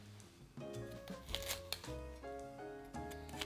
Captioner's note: knife cutting